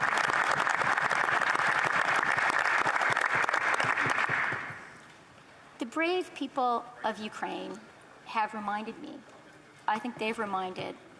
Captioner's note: applause